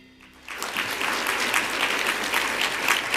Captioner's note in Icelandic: fagnaðarlæti